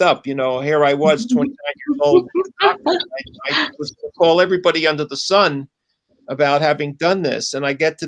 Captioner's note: laughter